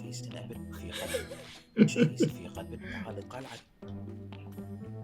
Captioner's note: laughs